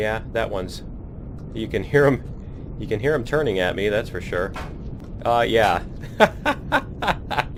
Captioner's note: laughs